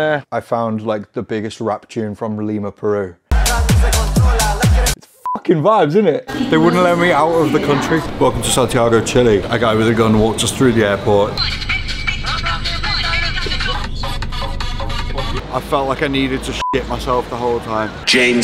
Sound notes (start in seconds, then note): 3.3 upbeat electronic music; 3.5 rapping in Foreign language; 5.5 beeps; 12.8 exciting electronic music; 16.6 beep